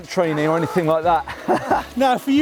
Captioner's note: laughs